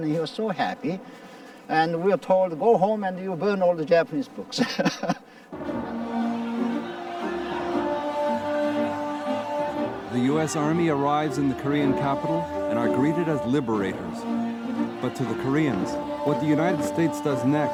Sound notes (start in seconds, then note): 5.6 laughing; 5.6 people shouting; 6.2 triumphant music